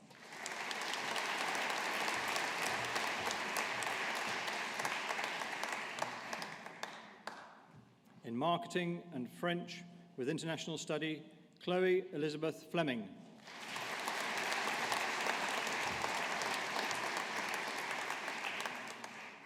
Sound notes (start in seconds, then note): 0.0 audience applauding; 13.4 audience applauding